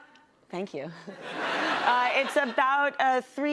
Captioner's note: person laughs; laughter